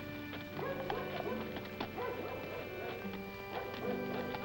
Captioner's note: mellow music; dogs barking